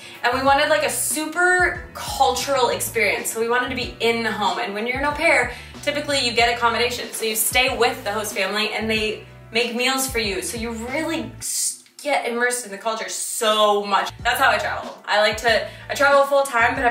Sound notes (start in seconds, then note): none